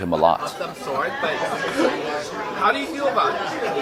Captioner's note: all chattering